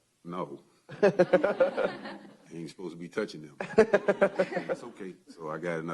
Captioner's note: laughter